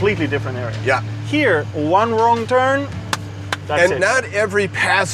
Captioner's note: claps